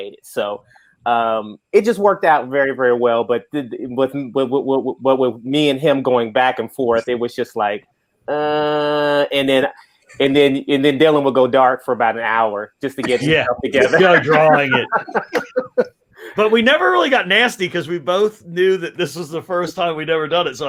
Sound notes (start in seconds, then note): 13.0 laugh